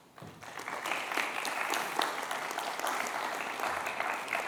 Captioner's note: applause